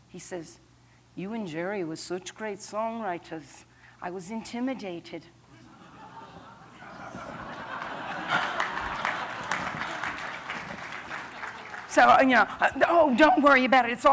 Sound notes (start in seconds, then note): 5.5 laughter; 7.0 applause